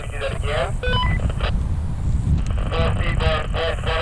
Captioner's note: radio beeps